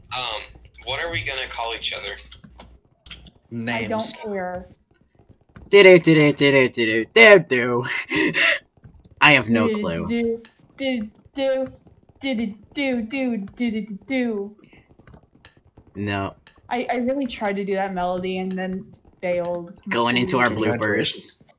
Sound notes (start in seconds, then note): 6.6 imitates theme; 12.0 poorly imitates same Mario theme